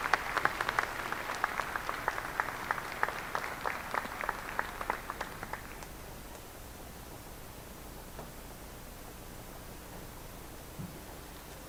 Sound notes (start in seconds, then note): 5.8 applause